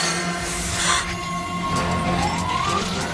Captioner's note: gasps